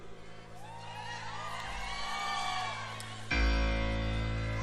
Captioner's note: audience cheers; strikes chord again